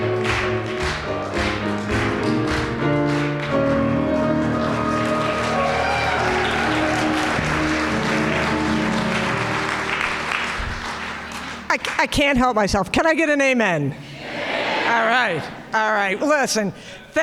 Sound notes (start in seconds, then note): 5.9 audience cheering and applauding